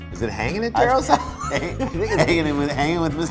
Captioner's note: laugh